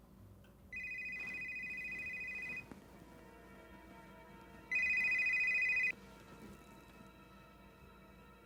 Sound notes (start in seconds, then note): 0.7 phone rings